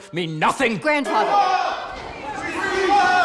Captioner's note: indistinct shouting